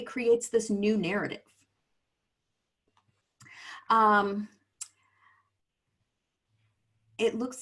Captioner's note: silence